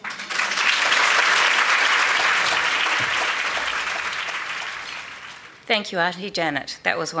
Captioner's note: applause